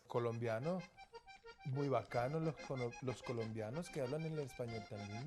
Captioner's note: speaking Spanish